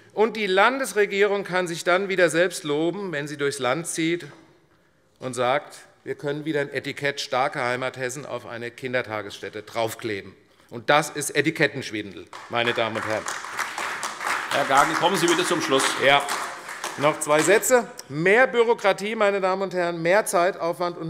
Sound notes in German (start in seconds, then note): 12.3 Beifall AfD